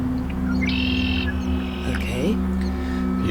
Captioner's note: songbird